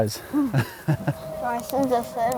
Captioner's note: laughs